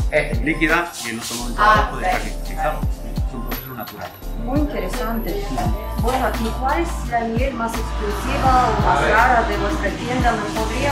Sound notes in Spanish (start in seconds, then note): 0.5 Voces en la tienda; 3.3 Voces en la tienda; 9.6 Voces de trasfondo